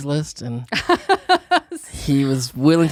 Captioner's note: laughs